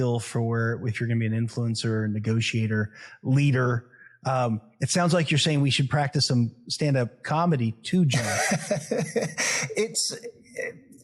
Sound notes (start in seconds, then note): 8.1 laugh